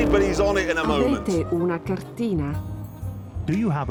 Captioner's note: woman speaking italian